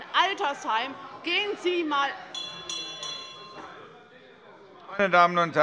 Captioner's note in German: Unruhe - Glockenzeichen des Präsidenten